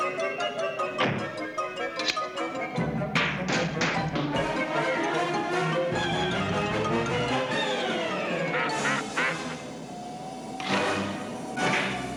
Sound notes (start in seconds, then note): 1.0 door slams shut; 8.4 honking